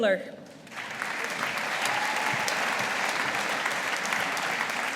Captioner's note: audience applauding